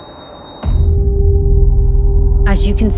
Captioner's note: boom